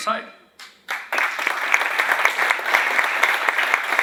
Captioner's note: applause